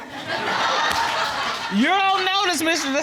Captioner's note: audience laughing